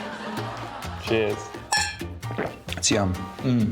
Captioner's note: clink!